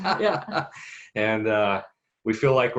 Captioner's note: both laugh